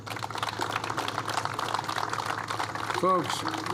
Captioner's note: applause